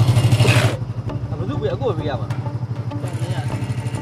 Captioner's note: someone says something in another language